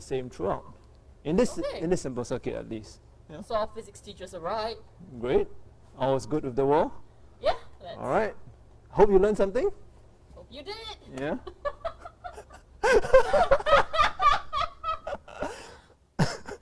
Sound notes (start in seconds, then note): 11.4 laughter